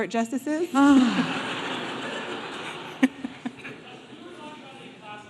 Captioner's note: audience laughing